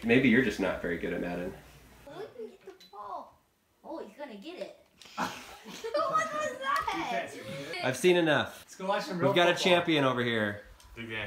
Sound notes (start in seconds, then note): 5.1 laughs